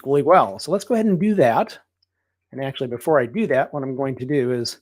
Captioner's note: none